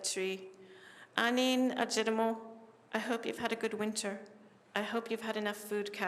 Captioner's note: non-english speech